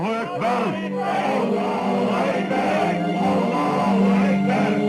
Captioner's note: crowd